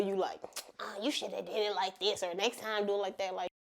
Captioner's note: scoffs